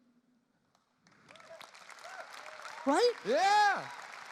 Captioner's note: audience applause